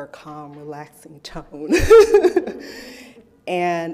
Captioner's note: laughs